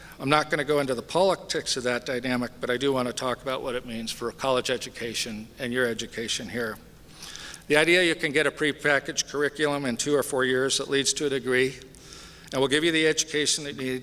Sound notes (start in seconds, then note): none